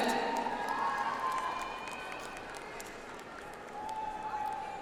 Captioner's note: audience applauds